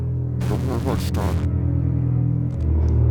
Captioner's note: Static